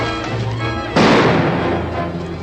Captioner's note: gunshot